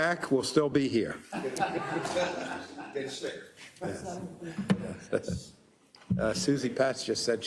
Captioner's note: laugh